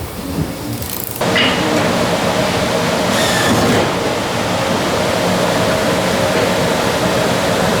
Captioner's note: tools sound